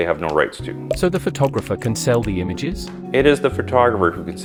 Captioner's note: voiceover